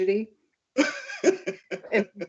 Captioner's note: laughs